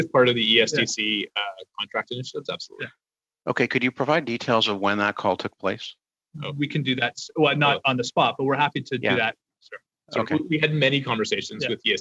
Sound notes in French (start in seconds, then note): 3.9 voix de l'interprète; 10.5 voix de l'interprète